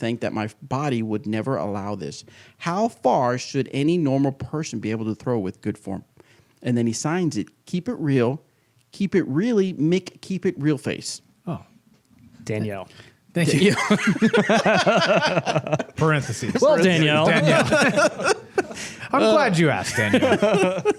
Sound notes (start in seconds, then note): 13.5 laughs